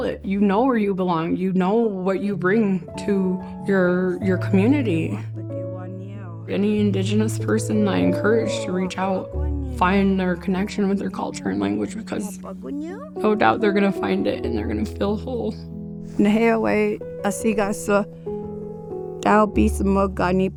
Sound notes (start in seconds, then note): 4.9 speaking Cree; 16.1 speaking Cree